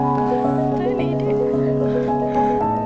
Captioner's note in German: Helles Klingeln; flüstert